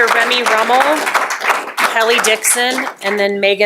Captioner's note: applause